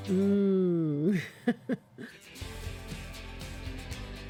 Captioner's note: laughs